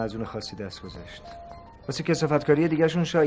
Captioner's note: mobile ringing